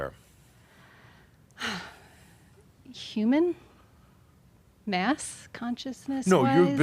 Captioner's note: sighs